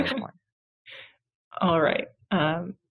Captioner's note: chuckling